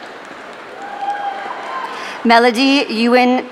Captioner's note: audience cheering